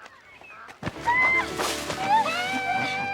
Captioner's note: splashing